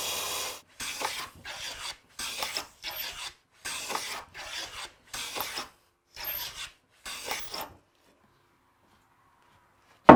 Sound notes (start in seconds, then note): 0.8 planer scraping